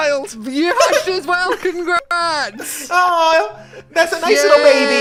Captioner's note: laughs